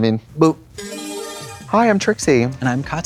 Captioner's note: bright chime